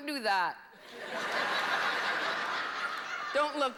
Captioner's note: laughter